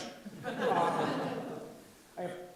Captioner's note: audience laughs